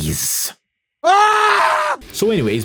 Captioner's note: scream